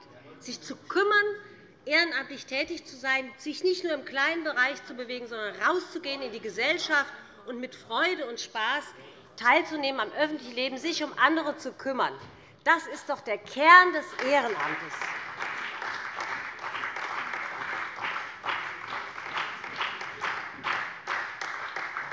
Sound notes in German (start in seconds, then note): 14.0 Beifall bei dem BÜNDNIS 90/DIE GRÜNEN und der CDU